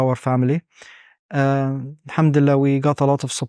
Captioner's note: speaking Arabic